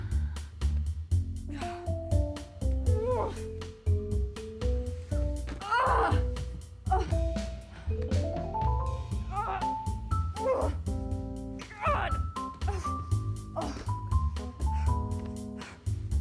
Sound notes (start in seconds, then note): 2.7 Joan grunting; 10.4 grunting